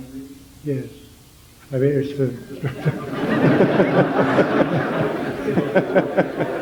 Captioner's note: interrupted by general laughter